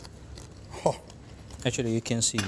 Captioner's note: chewing